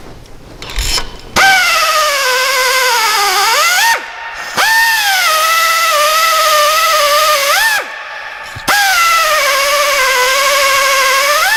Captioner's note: hub Cleaning Sound